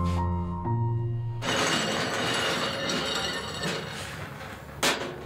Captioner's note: cart rattling